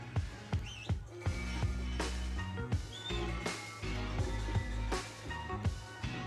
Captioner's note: John whistles